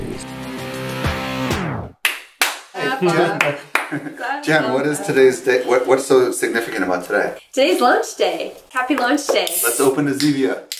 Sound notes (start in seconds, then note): 2.8 laughs